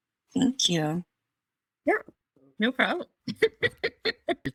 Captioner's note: laughs